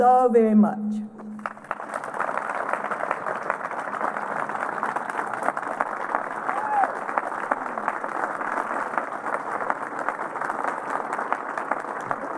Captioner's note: applause